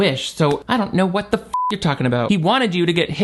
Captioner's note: beep